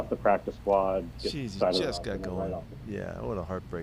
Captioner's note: interviewer speaking faintly